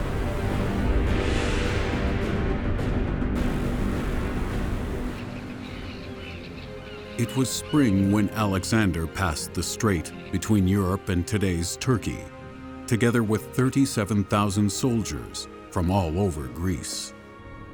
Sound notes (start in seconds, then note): 5.1 seagulls squawking